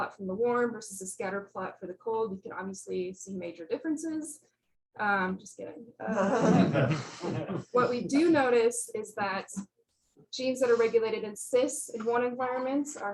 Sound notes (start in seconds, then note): 6.0 laughter